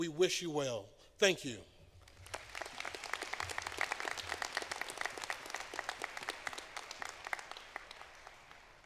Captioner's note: applause